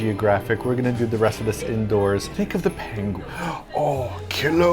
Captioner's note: gasp